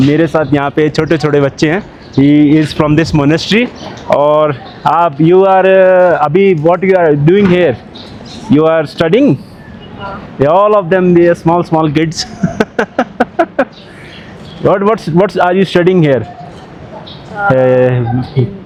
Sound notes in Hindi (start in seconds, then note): 12.2 हंसी